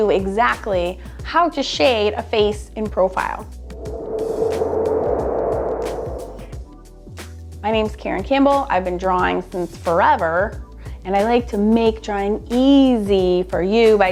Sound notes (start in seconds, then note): 3.6 swooshing breeze